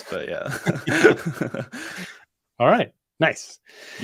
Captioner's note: laughter